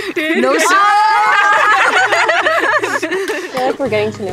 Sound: all yelling and laughing

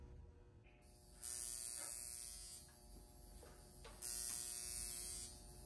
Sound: wand buzzing

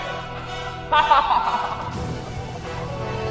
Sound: laughing

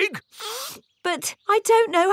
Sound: sniffs

